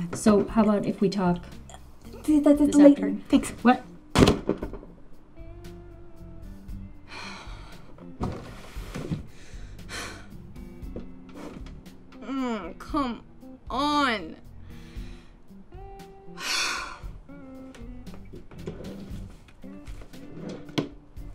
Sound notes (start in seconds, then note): 4.2 door bangs; 16.0 murmurs